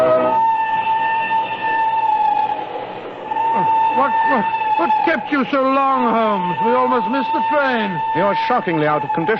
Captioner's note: hooters of the train